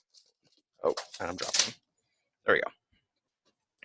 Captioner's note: computer clatters on the ground